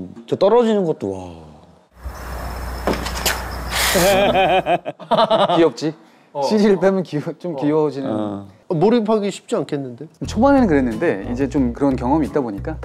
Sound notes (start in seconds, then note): 3.2 squelch